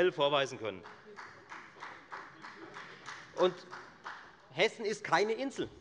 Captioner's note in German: Beifall der Abg